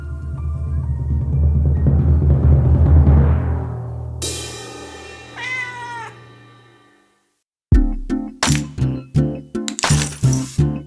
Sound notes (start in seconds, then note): 0.1 drum roll music; 5.3 cat meowing; 7.7 upbeat music